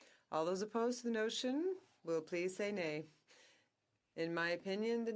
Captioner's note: speaking French